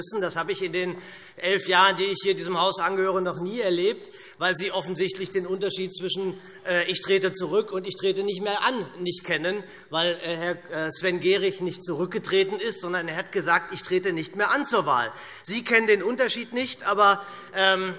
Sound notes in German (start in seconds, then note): none